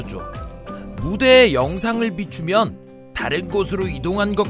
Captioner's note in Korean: 반짝이는 효과음